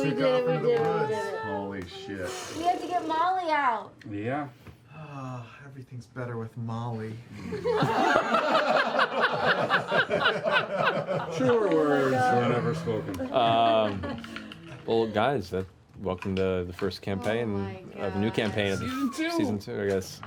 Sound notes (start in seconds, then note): 4.9 sighs; 7.4 laughter